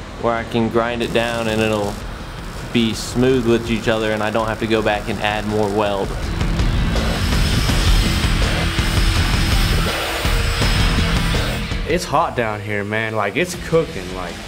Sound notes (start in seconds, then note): 6.2 upbeat music; 7.2 grinding sound